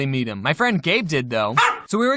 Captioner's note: bark